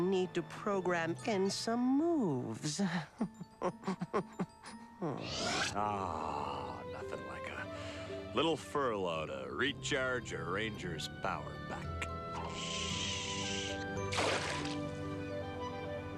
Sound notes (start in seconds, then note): 3.6 sinister laughter